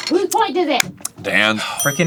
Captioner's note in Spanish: angustiado